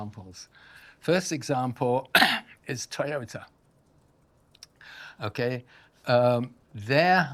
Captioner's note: coughs